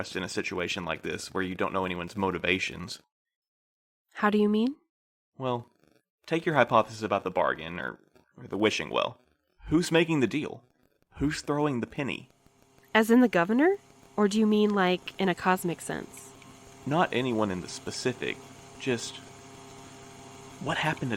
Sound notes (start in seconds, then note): 11.5 in the background, the low buzz of static, or possibly tape hiss; 16.3 as nicholas speaks, the static grows louder